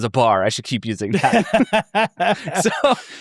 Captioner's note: people laughing